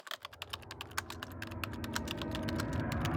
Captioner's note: typing